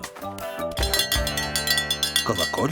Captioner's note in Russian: звон колокольчика